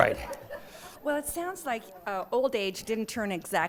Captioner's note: laughter